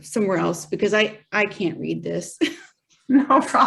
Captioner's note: laughs